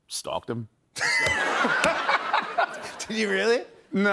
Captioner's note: laughter